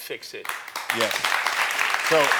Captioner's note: audience applauds